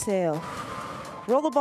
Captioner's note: breath hisses